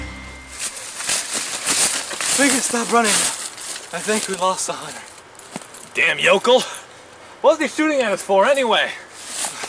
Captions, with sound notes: (leaves rustling) - We can stop running. I think we lost the hunter. - Damn Yokel. What was he shooting at us for, anyway?